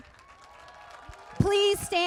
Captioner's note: applause